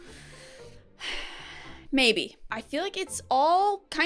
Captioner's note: sighs